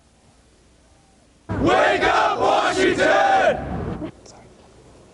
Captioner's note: shouting